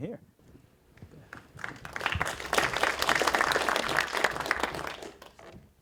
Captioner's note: applause